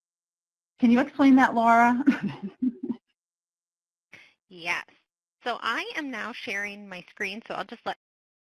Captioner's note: laughs